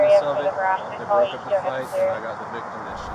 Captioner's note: radio chatter